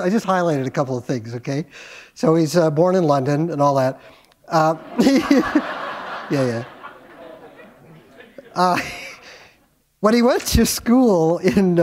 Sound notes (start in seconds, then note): 4.6 laughter